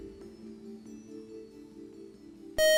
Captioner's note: buzzer